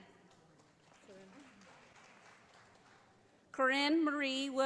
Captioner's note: audience applauding